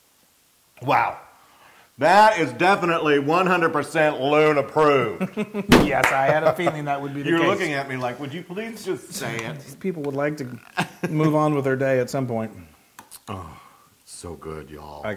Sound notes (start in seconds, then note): 5.9 laugh